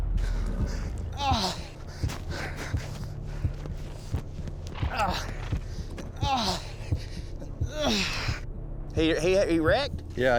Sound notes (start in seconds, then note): 1.0 groaning, limping